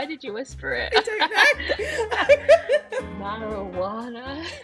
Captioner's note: laughing